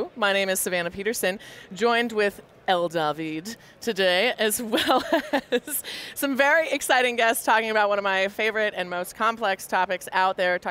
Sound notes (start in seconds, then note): 5.3 laughing